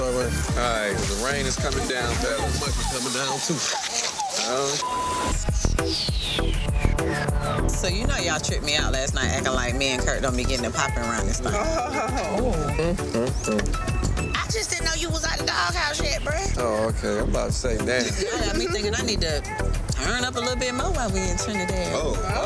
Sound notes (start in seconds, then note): 4.8 beep; 6.1 upbeat funky music; 11.6 woman chuckling; 12.6 man grunting